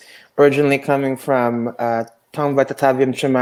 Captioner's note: speaks in foreign language